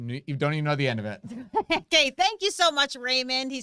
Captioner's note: laughs